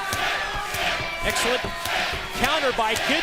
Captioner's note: crowd cheering